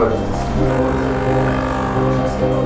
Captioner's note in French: Bruit de machine à café